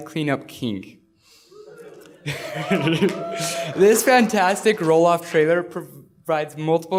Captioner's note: laughter; applause